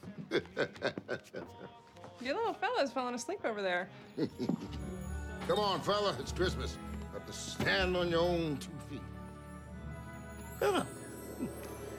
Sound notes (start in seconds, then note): 0.0 chuckling; 4.1 chuckling